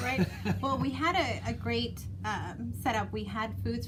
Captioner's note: laughs